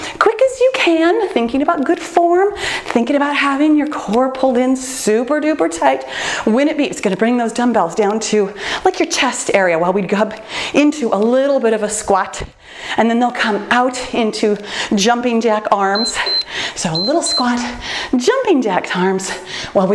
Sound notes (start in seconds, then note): 15.9 timer beeps